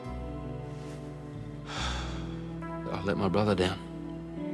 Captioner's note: sighs